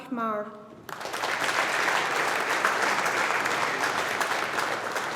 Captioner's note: audience applauding